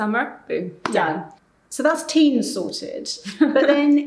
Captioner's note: laughing